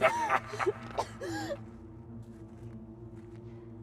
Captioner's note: leprechaun laughing; Jane coughing